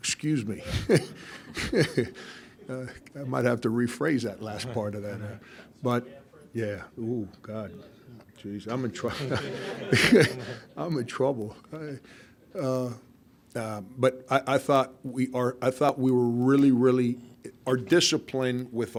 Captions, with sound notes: Excuse me (laughing). I might have to rephrase that last part of that. But yeah, oh God. Geeze, I'm in trouble (laughing). (crowd laughing) I'm in trouble. But I thought we were really, really, our discipline